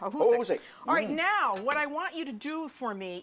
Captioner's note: speaking Chinese